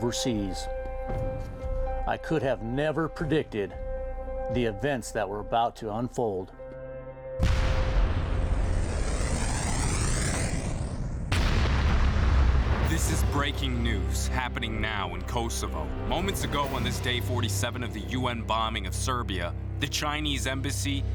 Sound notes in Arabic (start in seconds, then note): 5.7 قصف مدفعي; 7.8 هسهسة صاروخية; 9.6 ينفجر الصاروخ